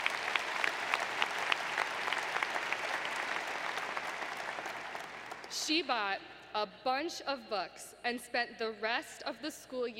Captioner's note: applause